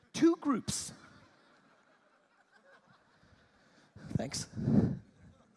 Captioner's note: audience laughing